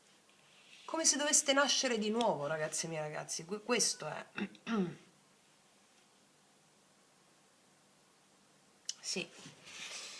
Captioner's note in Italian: schiarire la voce